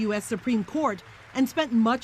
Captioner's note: applause